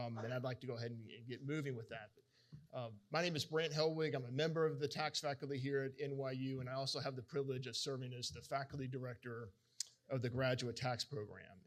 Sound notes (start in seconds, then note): none